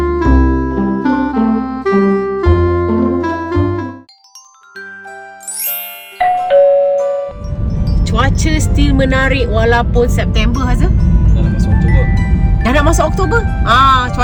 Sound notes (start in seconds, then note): 4.0 notification bell; 4.3 background music